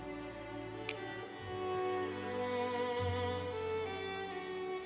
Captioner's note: pen clicks